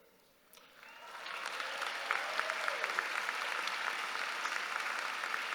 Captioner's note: audience applauding